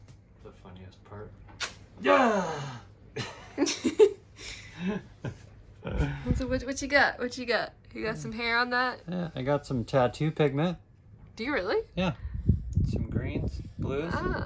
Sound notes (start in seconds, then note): 3.1 both Laughing